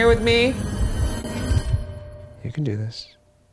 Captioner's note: heart beating